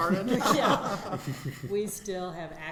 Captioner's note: everyone laughing